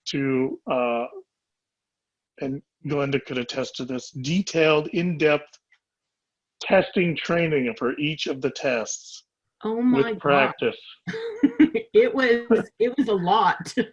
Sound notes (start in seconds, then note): 9.9 laughing